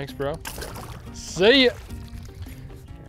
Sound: water splashes

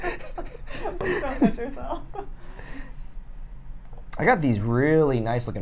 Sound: chuckles; laughs; chattering

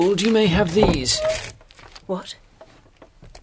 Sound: the rustle of paper

